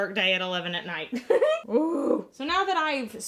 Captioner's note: laughs